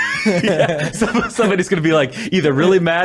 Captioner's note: laughs